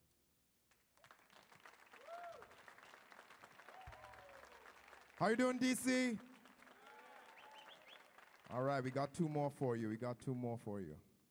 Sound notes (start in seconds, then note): 1.0 audience applauds; 6.4 audience cheers